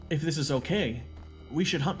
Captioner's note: none